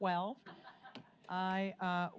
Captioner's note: audience laughs